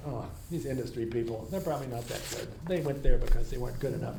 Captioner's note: none